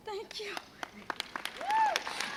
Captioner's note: crowd cheers